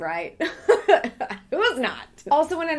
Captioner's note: laughing